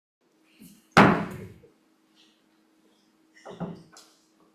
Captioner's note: gavel bangs